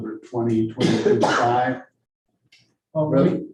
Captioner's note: coughs